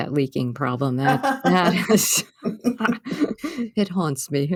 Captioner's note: laughter